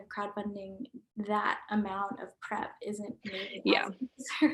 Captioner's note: murmurs